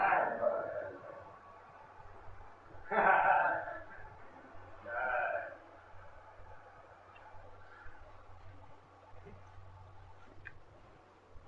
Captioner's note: laughter